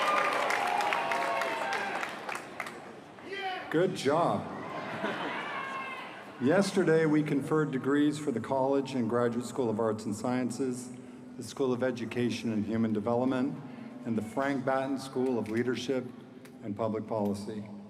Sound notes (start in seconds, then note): 2.7 applause